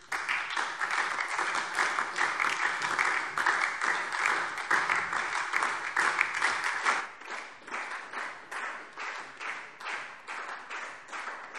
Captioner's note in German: Anhaltender Beifall SPD – Beifall DIE LINKE